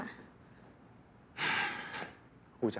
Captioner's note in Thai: เสียงถอนหายใจ